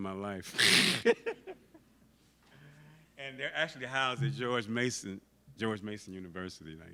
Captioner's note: laughs